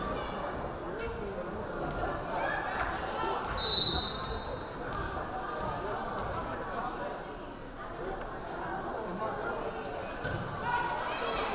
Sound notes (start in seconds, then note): 3.6 whistle blaring